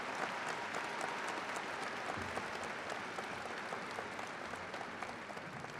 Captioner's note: crowd applauding continues